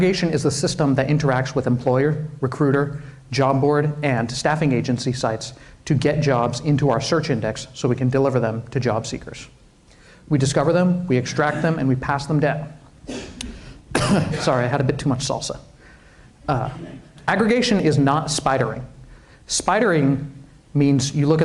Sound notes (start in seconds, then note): 13.9 coughs